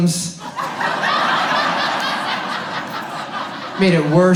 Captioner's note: audience laughs